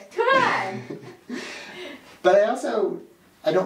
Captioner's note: laughing